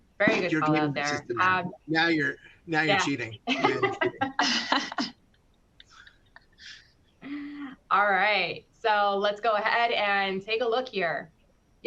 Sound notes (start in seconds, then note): 2.7 laughing